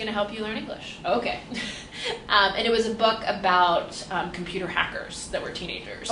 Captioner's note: laughs